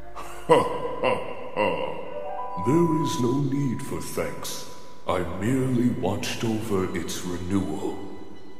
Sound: laughs

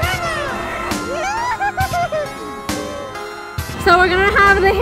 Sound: tittering

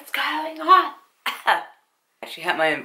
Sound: coughs

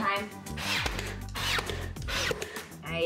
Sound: power tool noise

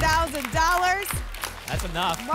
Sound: applause and cheering

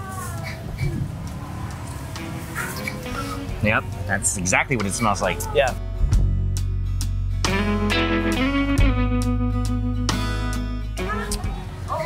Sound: drinks

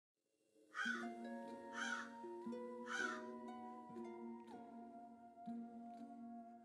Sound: bird squawking; dark eerie music

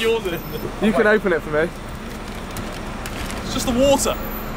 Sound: paper crumpling

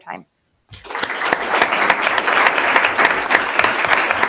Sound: attendees clapping

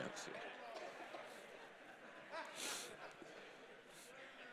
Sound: congregation laughing

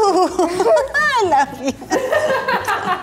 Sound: laughing

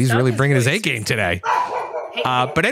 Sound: dog barking

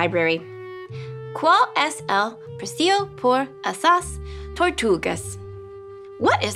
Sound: speaking in foreign language

